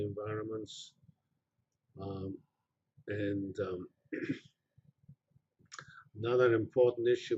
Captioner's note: pause